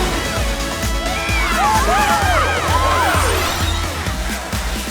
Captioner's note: cheering